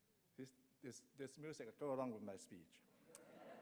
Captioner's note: laughs